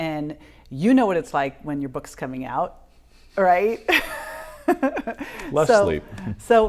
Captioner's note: laughing